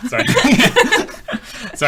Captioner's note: laughing